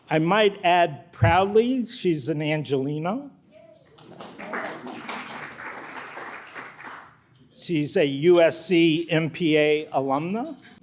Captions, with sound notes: I might add proudly, she's an Angelina. (audience clapping) She's a USC MPA alumna,